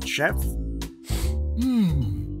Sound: Pops sniffs

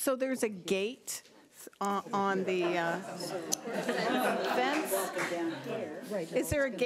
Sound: audience laughing

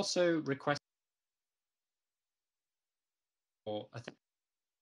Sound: audio cuts out

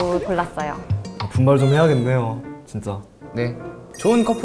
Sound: tears

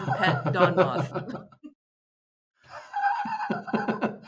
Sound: laughter

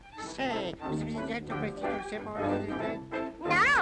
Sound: whispers

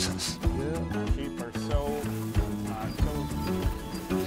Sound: gentle upbeat music; men chatting

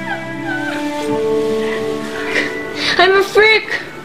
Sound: sobbing

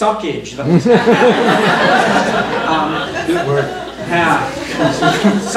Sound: laughter

